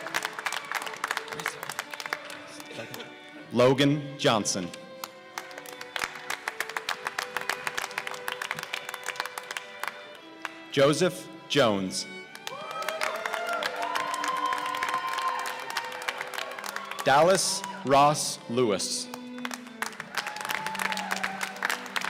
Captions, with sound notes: Logan Johnson (applause) Joseph Jones (cheers and applause) Dallas Ross Lewis (applause)